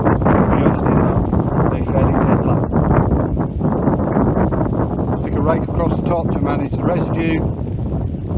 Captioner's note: windNoise